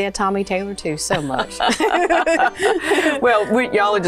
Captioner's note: both laugh